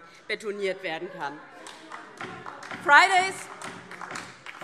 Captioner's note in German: Beifall DIE LINKE - Zuruf SPD